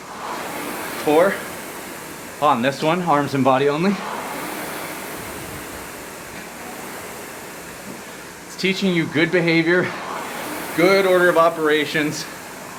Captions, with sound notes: Four, on this one, arms and body only. (rowing machine whirring) It's teaching you good behavior, good order of operations.